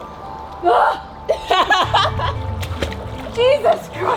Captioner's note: laughing